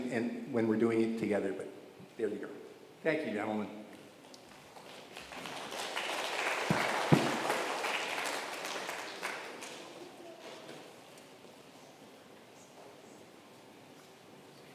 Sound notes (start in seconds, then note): 4.3 crowd clapping